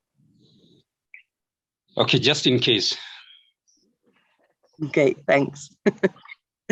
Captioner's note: chuckles